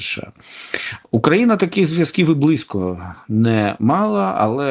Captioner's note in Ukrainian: сопіння